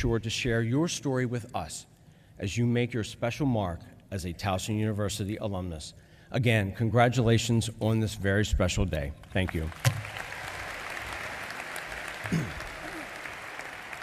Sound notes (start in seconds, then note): 9.3 applause